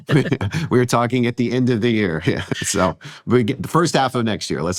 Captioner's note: chuckles